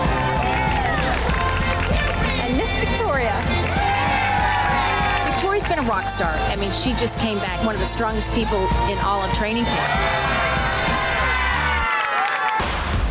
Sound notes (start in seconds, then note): 0.0 women cheering; 1.1 upbeat music; 3.7 upbeat music; 3.7 women cheering; 10.1 women cheering; 12.8 upbeat music